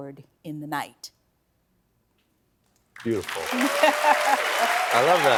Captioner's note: applause